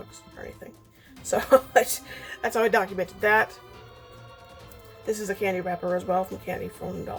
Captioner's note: laughs